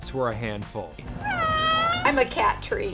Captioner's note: cat meows